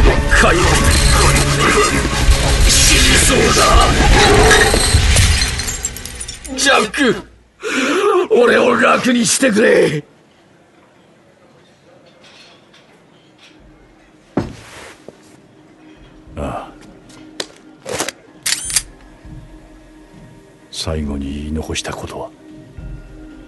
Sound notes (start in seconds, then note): 0.1 Cris's voice distorts; 0.1 electrical noises; 1.9 Cris's voice distorts; 4.4 electrical noises